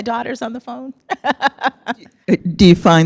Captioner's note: laughs